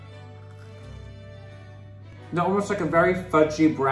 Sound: macaron crunching

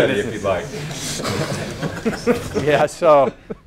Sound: laugh

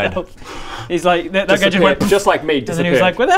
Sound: poof

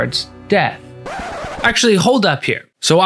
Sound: record scratching to a stop

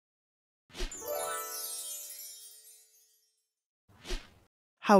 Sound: stars shimmering

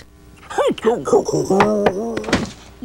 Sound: groans

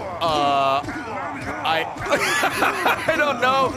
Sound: laughs

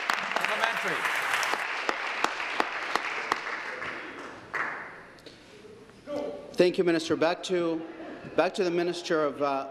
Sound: applause

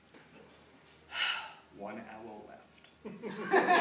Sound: sigh; laughter

